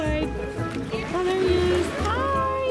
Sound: voiceover

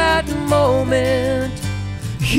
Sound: none

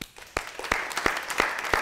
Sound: applause

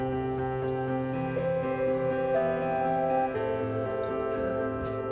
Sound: multimeter buzzing

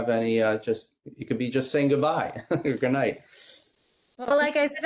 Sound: laughing

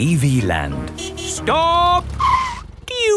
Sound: tires screeching

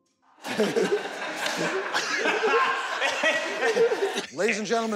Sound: laughter

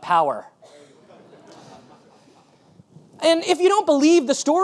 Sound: audience laughing

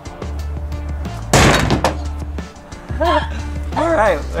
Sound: metal clanging

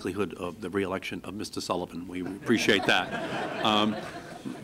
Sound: laughter

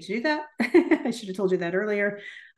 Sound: laughs

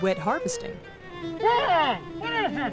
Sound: mumbling

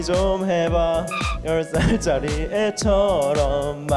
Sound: failed to hold the laughter

